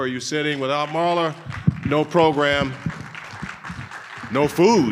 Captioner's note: audience applauding